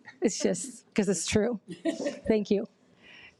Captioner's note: audience laughs